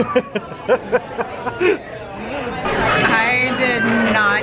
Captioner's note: laughs